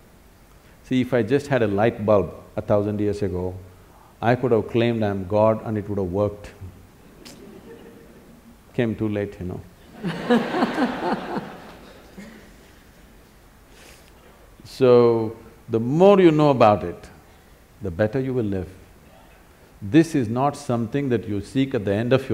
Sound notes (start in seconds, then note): 9.9 laughter